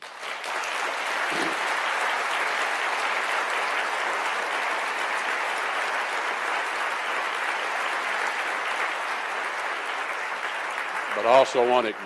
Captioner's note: applause